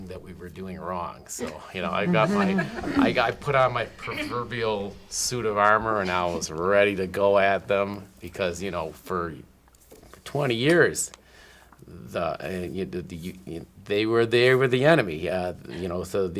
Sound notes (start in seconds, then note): 1.4 all laughing